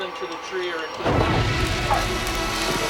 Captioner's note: tree explodes; fire roaring